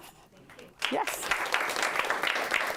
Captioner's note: audience applauding